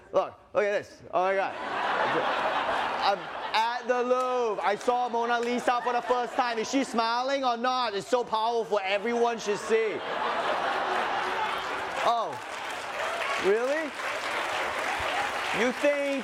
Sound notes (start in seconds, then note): 9.0 laughter